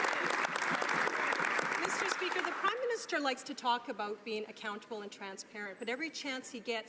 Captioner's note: some Applause